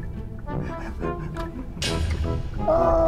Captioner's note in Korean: ㅎㅎㅎㅎ